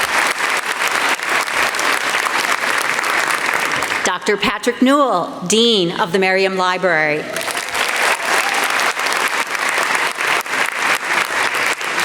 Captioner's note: applause; applause